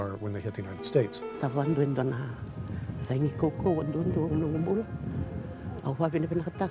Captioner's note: woman speaking in foreign language